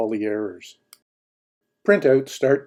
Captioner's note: mouse clicking